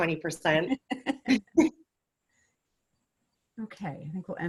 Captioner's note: chuckling